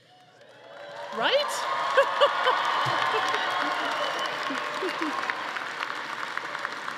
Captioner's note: audience applauding; laughs